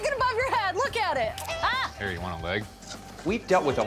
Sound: yells

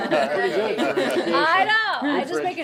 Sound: all laughing

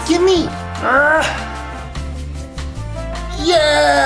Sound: yells out

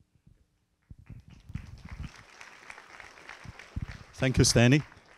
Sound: audience applauding

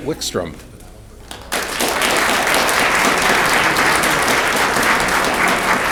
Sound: audience clapping

